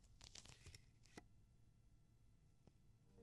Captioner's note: peeling